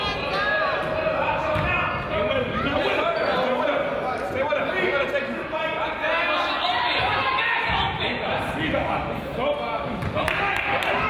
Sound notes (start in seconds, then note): 2.7 crowd yells